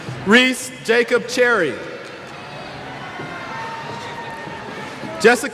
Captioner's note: cheers